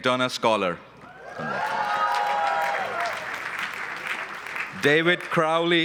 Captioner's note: cheering and applause